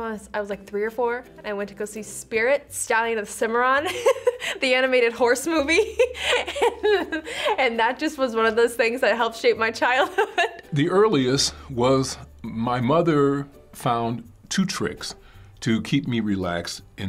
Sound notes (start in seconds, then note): 5.7 laughs